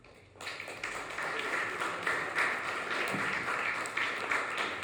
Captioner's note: audience claps